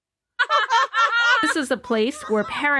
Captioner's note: grandmother and grandchild laughing